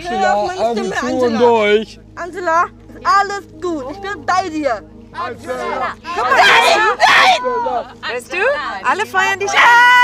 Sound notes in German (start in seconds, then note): 5.2 schreit